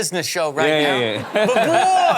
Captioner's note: laughs